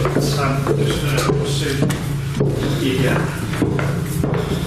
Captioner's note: both chattering